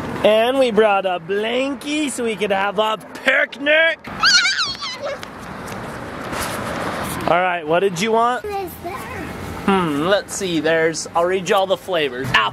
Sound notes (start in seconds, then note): 4.0 exclaims